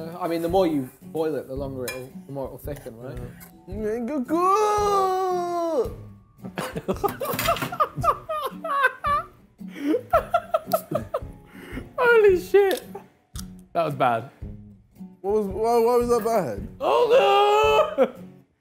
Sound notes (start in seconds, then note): 6.5 laughing